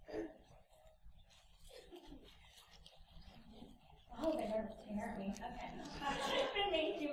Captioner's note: laughs